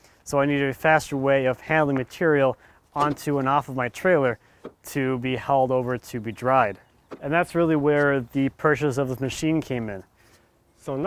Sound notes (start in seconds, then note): none